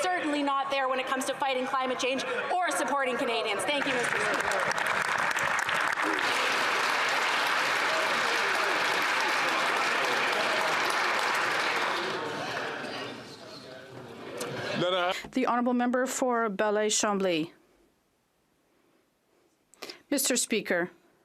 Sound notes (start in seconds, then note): 12.2 some Applause